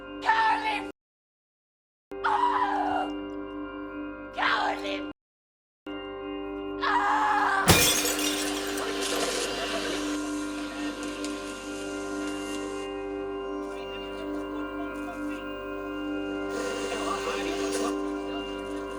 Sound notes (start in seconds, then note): 7.6 glass breaks; 11.4 television chatters